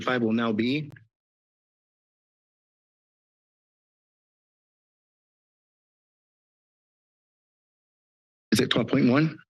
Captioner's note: silence